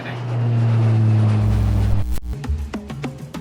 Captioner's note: distant plane; drum beat